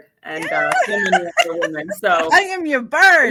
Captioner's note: laughing